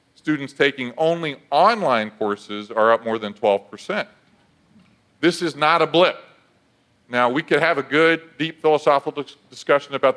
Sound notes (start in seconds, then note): none